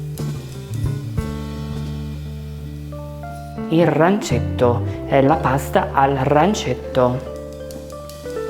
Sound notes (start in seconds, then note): 3.7 speaking italian